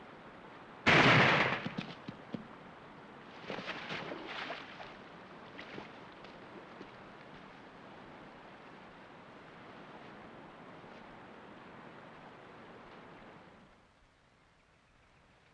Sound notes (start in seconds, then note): 0.8 gunshot; 3.4 splash; 5.6 flowing water